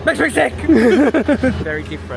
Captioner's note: pair laughing